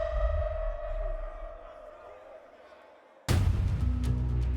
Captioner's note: people chatting; dramatic music